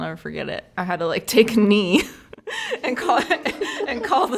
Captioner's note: all laugh